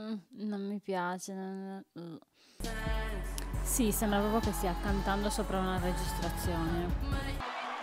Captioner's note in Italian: Applauso